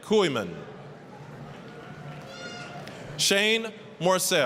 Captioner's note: applause, cheering